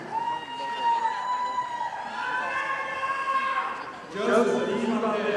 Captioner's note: audience applauding